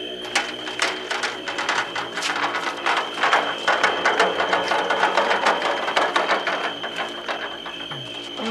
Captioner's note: wheelbarrow rolling